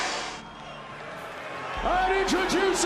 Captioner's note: crowd cheering